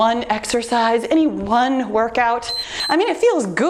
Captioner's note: timer beeps